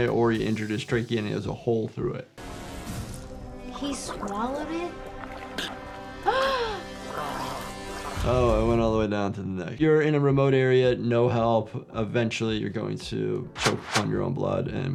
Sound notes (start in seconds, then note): 2.4 ominous music; 6.2 gasping